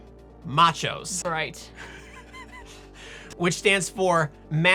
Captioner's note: laughing